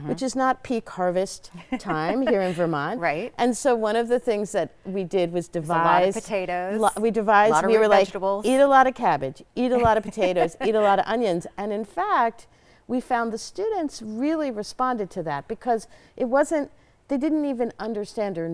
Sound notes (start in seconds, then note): 1.5 chuckles; 9.7 chuckles